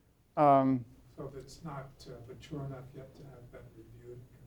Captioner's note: voiceover